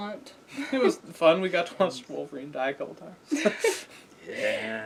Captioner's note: laugh